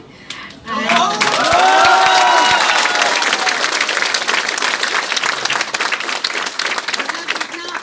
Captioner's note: clapping